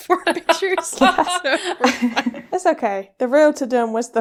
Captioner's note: laughing